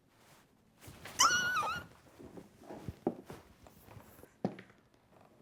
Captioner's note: excited squeal